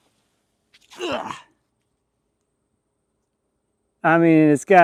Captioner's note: grunts